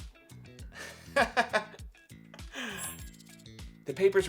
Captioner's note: amused laughter